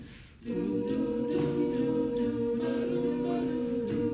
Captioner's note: humming